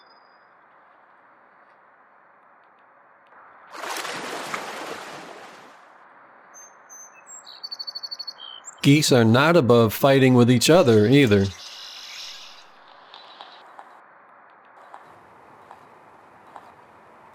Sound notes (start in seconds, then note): 3.7 splashing